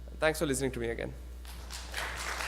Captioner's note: clapping